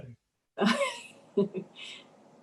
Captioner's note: laughs